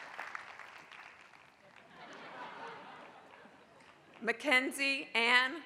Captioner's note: applause; laugh